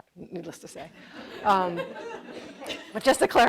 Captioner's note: audience laughing